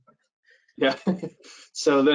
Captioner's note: laughs